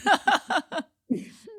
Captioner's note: laugh